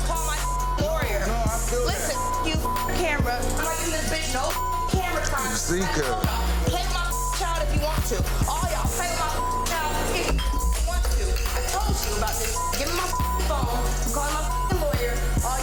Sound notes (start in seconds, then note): 0.0 tense hip-hop music; 9.7 tense hip-hop music; 11.1 glass clinking